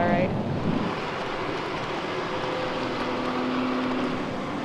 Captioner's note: excavator squeaking